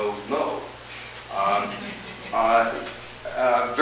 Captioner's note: audience chuckles